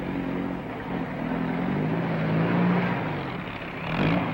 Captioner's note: truck engine whirring; jeep whirring